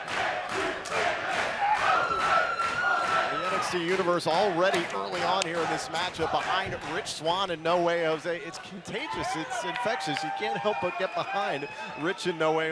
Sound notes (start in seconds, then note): 0.2 crowd cheering; 7.8 crowd cheering; 8.7 crowd chatter